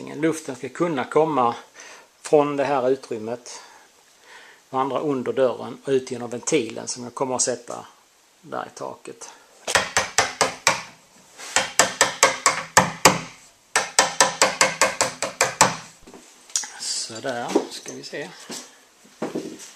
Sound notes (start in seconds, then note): 9.8 knock, knock, knock